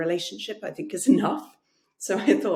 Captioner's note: chuckles